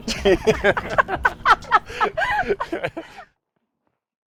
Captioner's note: both laughing